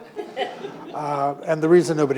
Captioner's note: audience laughing